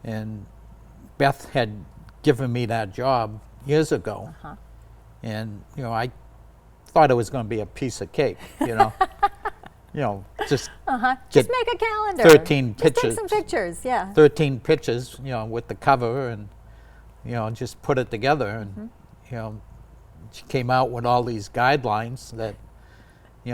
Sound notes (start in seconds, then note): 8.4 laughs